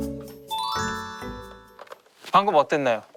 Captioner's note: call ends